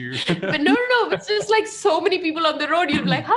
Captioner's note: chuckles